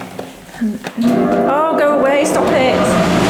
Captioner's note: loud fans blowing